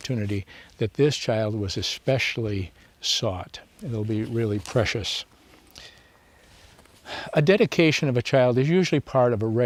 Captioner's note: sighs